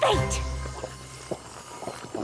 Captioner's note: dainty sipping